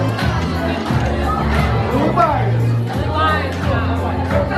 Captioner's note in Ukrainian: оплески